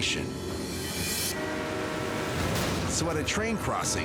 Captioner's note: train horn blaring